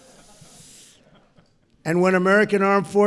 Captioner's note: laughter